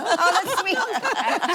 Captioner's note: laughing